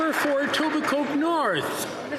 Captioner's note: some Applause